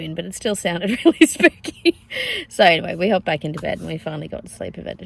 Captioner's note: laughing